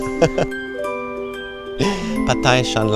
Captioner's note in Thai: เสียงหัวเราะ